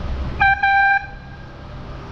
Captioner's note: airhorn